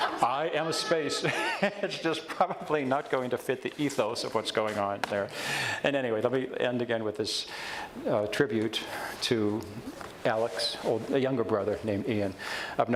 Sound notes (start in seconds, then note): 0.0 audience laughs; 6.6 stutters